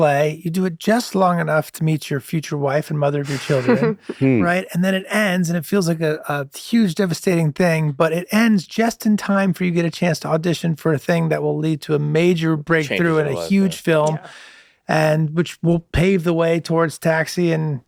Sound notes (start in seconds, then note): 3.2 laughs softly